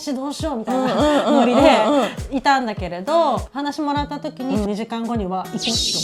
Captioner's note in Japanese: 笑い